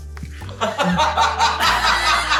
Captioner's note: laughter